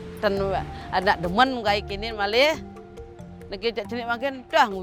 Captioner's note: speaking foreign language